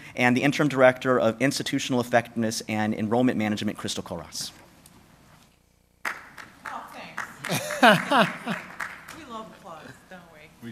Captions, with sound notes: and the Interim Director of Institutional Effectiveness and Enrollment Management, Crystal Kollross. [ Applause and background noise ] >> We love applause don't we?